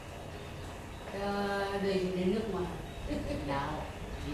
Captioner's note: laugh